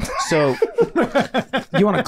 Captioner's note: group laughing